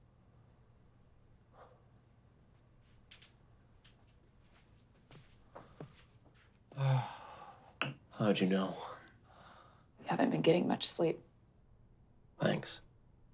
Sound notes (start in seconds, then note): 6.7 sighs